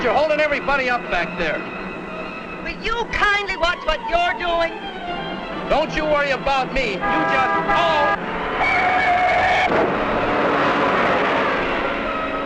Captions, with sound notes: - But you're holding everybody up back there. - Will you kindly watch what you're doing? - Don't you worry about me, you just-- (yelling) (tires screeching)